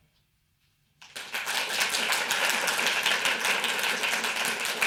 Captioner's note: audience applauding